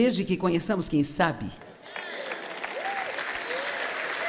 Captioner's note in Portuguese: audiência aplaude